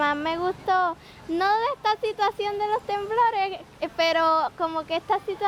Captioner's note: speaking Spanish